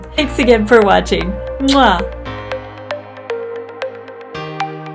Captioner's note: kisses